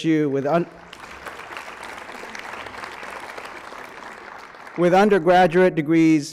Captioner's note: applause